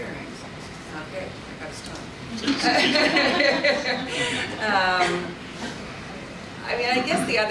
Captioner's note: audience laughs